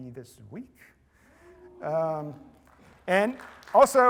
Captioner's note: applause